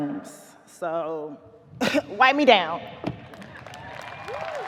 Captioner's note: clears throat; audience cheers, applauds